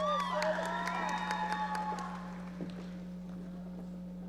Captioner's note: audience cheering